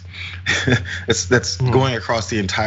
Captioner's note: laugh